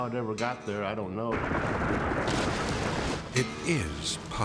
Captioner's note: silo crashing